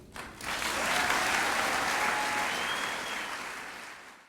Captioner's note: applause